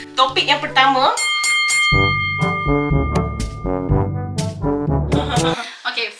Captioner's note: bells